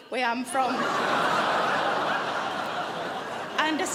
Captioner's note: crowd laughs